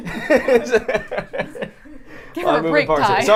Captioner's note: laughs